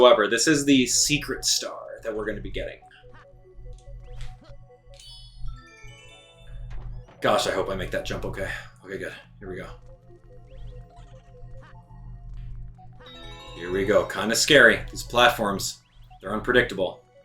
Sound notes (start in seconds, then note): 4.2 gaming sounds; 11.0 gaming sounds